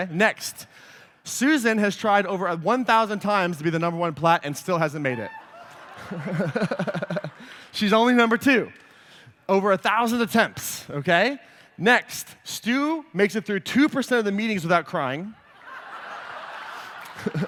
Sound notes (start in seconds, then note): 5.3 laughter; 15.4 laughter